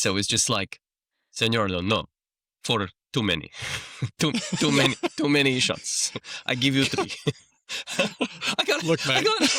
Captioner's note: laughter